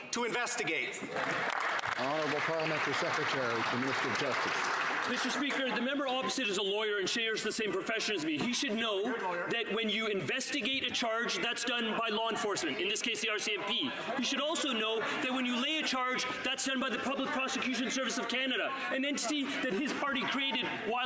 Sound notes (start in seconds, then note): 4.3 some Applause